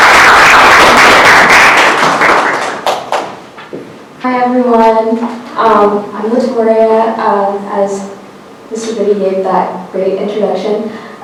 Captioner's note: clapping